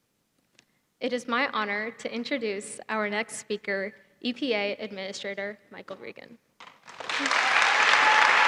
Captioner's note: applause